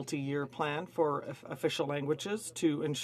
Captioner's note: speaking in French